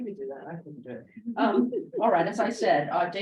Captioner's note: laughs